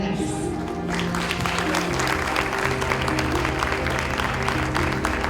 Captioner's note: audience applauding